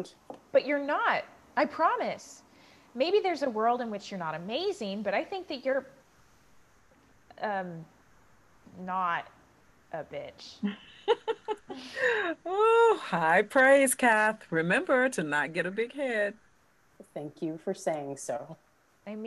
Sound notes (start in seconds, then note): 10.6 laughs